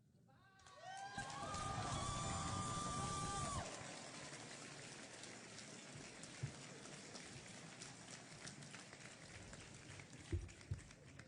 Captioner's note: applause and Cheering